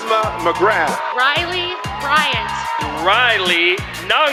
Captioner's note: cheering